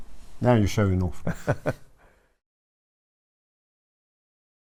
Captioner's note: laughs